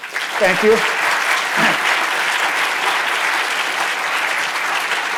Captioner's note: audience applauds